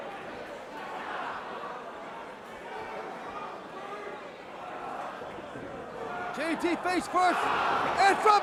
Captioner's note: crowd chatter